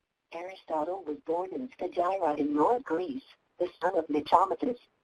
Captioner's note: voiceover